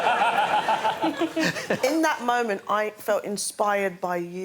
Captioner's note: laughter